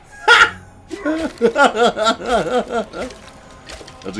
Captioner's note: laughs